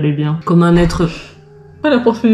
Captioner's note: door noise